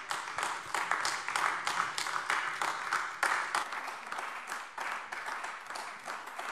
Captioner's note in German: Beifall AfD